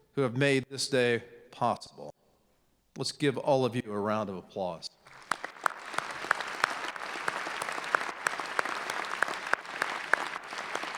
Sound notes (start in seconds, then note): 5.0 clapping